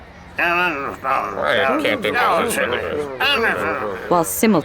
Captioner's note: men grumbling angrily